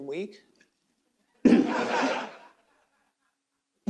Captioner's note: laughter